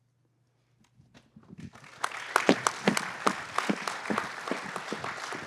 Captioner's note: applause